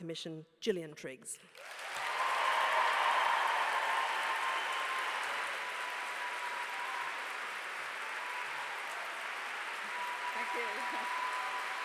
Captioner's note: applause